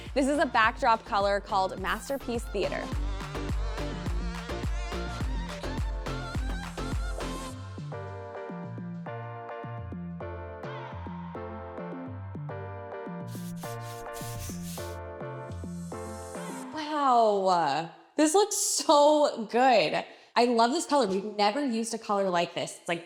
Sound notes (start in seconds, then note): 3.4 upbeat music; 13.2 brush swiping